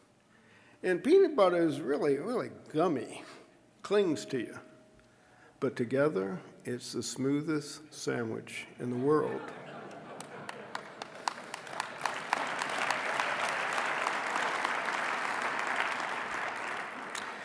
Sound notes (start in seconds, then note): 9.0 audience laughing; 10.1 applause